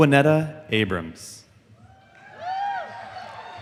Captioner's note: applause